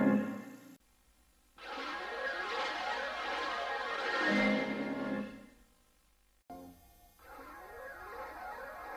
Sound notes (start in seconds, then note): 1.6 swirling sounds continuing